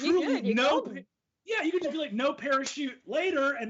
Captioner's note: speaks faintly